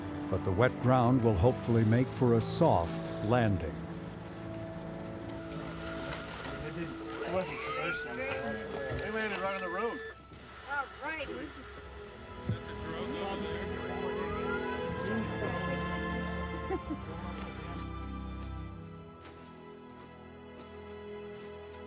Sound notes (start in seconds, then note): 7.0 team chattering; 12.2 soft music